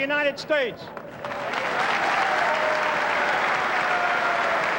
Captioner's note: applause